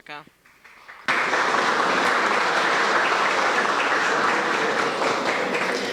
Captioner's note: applause